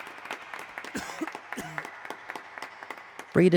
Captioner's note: imaginary audience clapping; imaginary audience coughing